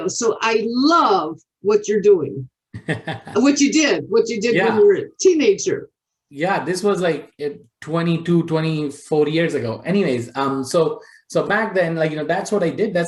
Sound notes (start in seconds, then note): 2.7 laughs